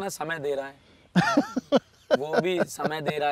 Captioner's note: Laughing